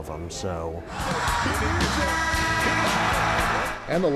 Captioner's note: crowd cheering